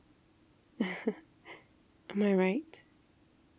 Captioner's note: laughs